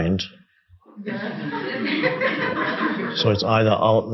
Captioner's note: audience laughing